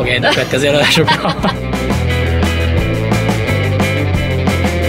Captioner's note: laughing